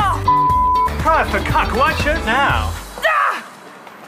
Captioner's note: shrieks